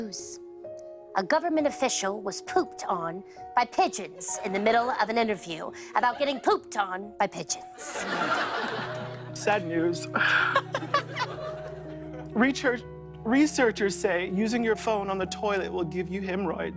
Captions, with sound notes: A government official was pooped on by pigeons in the middle of an intervie about getting pooped on by pigeons. [ Laughter ] -Sad news. -[ Laughs ] -Research -- researchers say using your phone on the toilet will give you hemorrhoids.